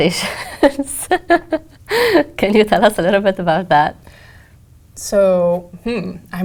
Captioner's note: laugh